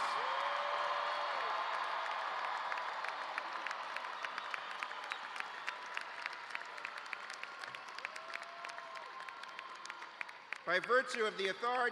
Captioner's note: cheers and applause